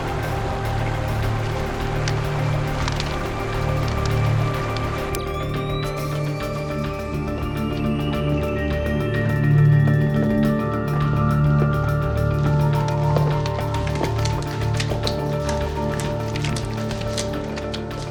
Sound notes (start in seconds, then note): 5.8 light powering up; 5.8 suspenseful music continues